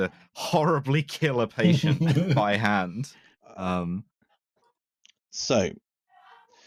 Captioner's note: laughter